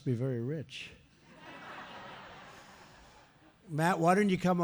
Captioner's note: laughter